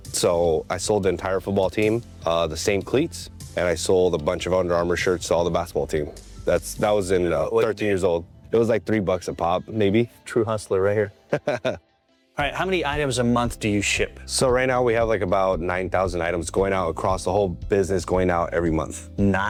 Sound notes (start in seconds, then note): 11.2 chuckling